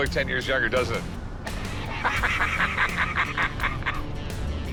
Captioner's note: laughter